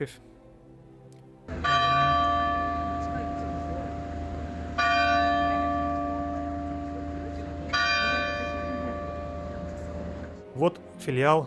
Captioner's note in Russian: звон колоколов